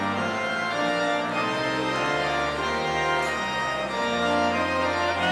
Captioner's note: none